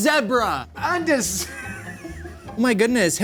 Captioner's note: laughing